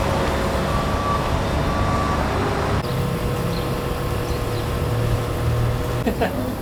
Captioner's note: laughs